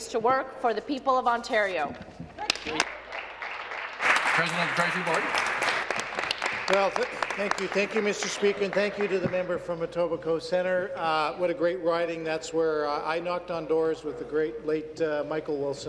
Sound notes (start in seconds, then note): 6.9 applause